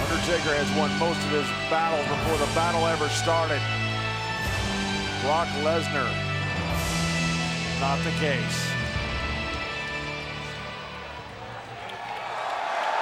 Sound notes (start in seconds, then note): 8.6 audience cheering louder